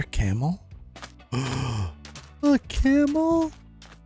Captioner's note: gasp